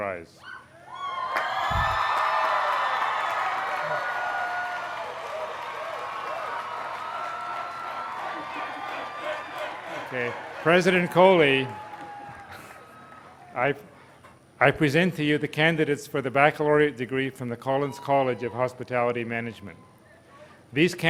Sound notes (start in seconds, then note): 5.7 cheering